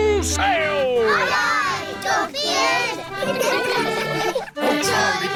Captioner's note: giggling